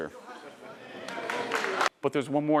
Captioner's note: audience cheering